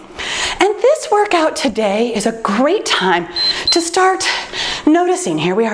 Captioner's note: timer beeps